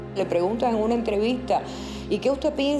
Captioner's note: speaking Spanish